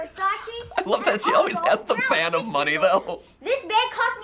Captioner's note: laughs